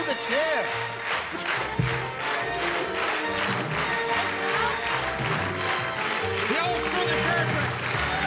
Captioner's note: clapping